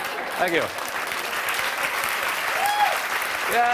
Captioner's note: applause